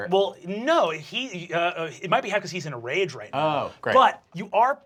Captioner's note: none